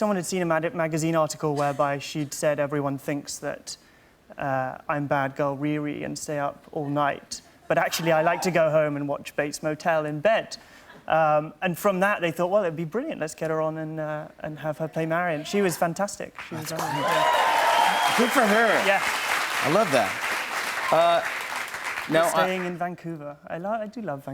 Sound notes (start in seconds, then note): 16.4 cheers and applause